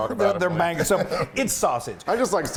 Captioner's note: laughing